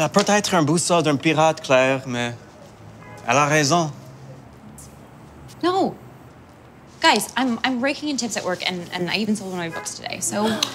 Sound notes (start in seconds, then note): 0.4 speaking Amazing French; 4.1 French